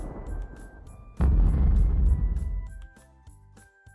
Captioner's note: distant boom